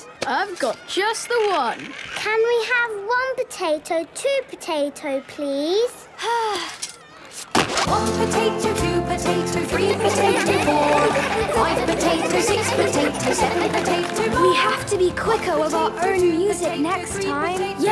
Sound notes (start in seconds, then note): 6.2 Belinda sighing; 9.8 laughter